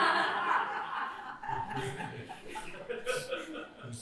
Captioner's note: laughter